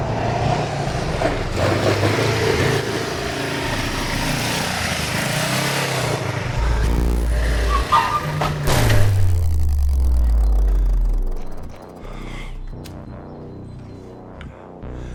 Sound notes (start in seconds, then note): 7.5 tires screeching; 7.6 motorbike crashing; 9.8 dramatic music